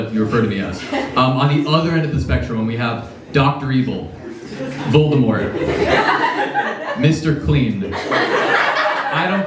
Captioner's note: laughs